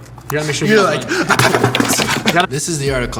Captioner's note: whacking keys